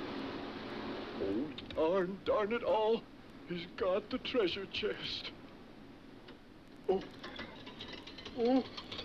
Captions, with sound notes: - Oh, darn, darn it all! He's got the treasure chest. Oh, oh! (bike rattles)